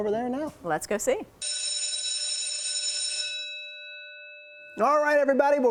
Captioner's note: school Bell Ringing